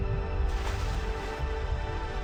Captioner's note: dramatic music; water splashes; dramatic music